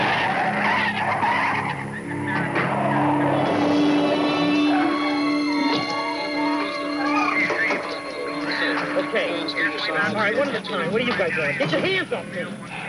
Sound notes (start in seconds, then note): 0.1 tires squealing; 6.5 background chattering; 6.8 radio chattering